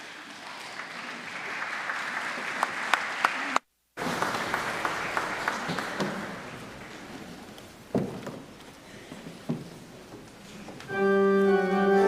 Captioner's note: applause